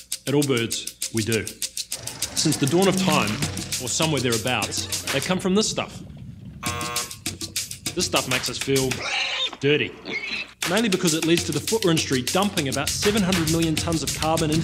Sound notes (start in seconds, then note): 6.6 buzzer sounding; 8.9 pig squealing